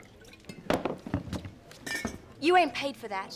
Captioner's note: liquid pouring; glass thuds